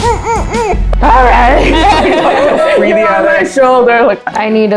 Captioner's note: laughter